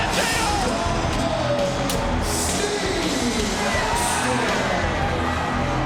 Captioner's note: announcer vocalizing